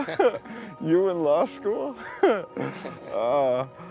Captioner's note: both laughing; laughs